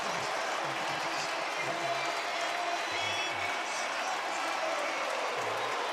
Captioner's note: cheering; pa announcement